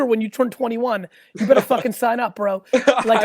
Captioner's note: laughs